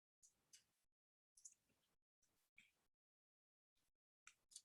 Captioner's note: mouse clicking